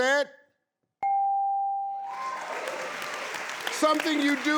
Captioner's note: bell dinging; audience applauding